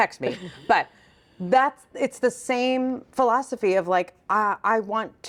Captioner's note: chuckles